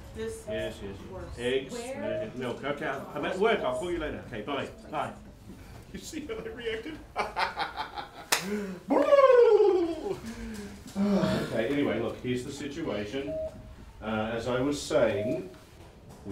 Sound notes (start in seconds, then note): 7.1 ha ha ha